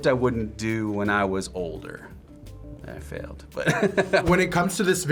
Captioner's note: laughs